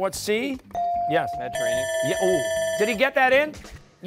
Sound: buzzer

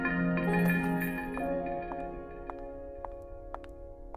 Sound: footsteps

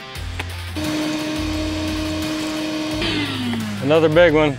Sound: tool roaring

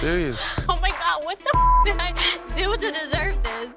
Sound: beeping

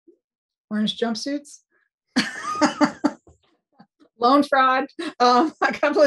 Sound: laughs

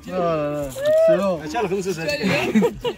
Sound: laughs

